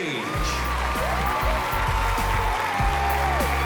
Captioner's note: cheering